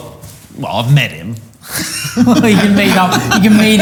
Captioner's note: laughing; laughs